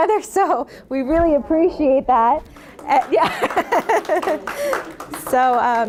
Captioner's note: audience applauding